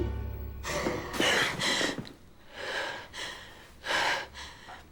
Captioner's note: dramatic music; Margaret gasping